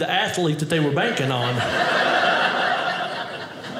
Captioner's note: audience laughing